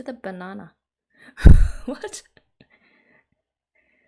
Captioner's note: laughs